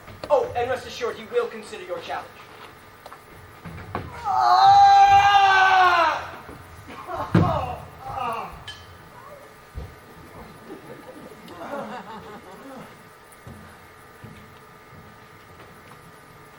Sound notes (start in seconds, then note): 4.2 guy moans loudly